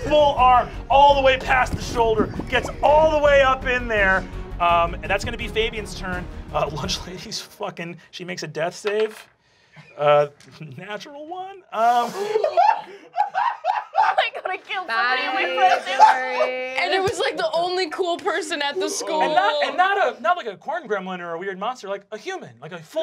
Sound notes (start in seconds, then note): 9.7 dice clacking; 12.0 gasping and hysterical laughing